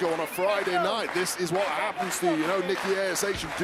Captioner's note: crowd clapping